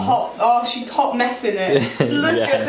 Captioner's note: laughs